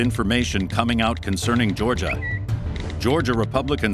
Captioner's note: Twitter chime